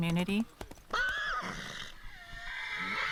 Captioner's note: horse whinnying